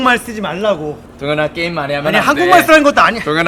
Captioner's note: back to Korean